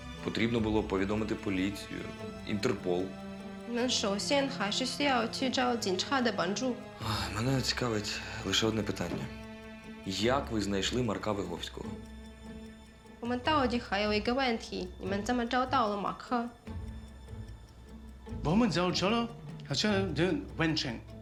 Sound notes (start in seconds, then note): 3.7 talking in chinese; 13.2 talking in chinese; 18.4 talking in chinese